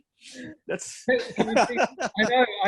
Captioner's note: both laugh